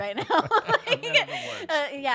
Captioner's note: laughing